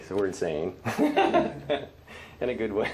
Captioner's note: laugh